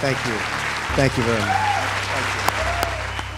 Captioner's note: audience applauds and cheers